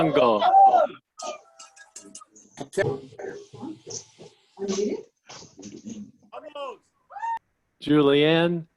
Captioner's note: cheering